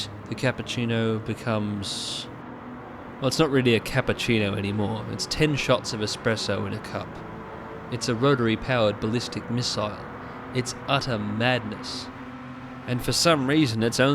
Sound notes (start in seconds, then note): none